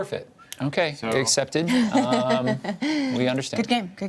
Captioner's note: laughs